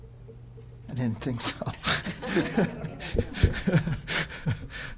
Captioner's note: all laugh